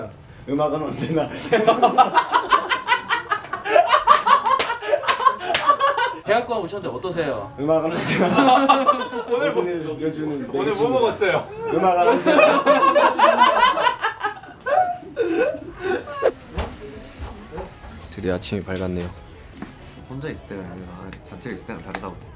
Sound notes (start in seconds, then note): 3.4 Members laugh at Jung Kook's random answer